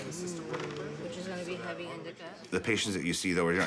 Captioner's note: people chatter